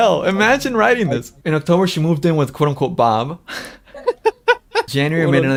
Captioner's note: laughs